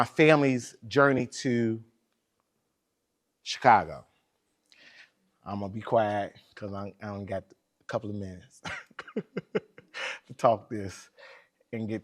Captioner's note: laughs